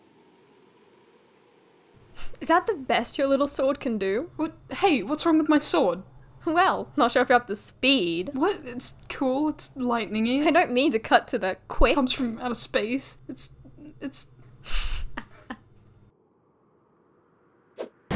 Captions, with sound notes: is that the best your little sword can do? wh- hey! what's wrong with my sword?! well, not sure if you're up to SPEED. what? its cool... its lightning-y I don't mean to cut to the QUICK. it comes from outer space.. its... its..... (laughs)